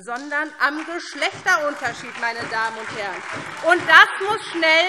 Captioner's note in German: Beifall SPD und DIE LINKE